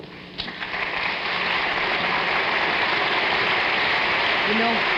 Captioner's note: audience applauding